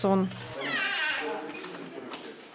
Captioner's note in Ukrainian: скрип дверей